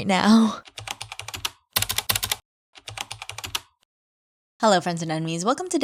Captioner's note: typing